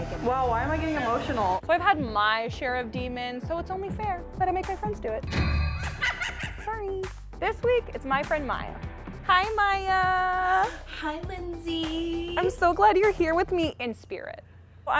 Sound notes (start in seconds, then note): 4.8 ominous music; 5.7 laughs